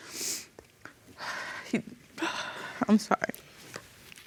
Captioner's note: sobbing